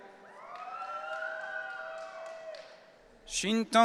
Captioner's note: audience cheering